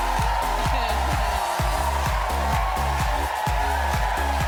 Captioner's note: Wendy laughs